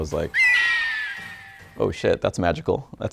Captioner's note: falcon screeches